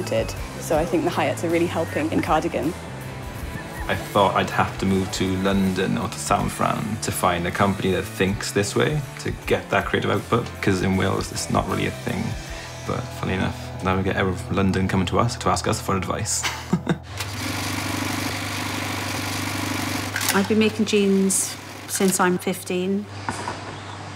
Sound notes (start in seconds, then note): 16.4 laughs; 17.1 sewing machine vibrating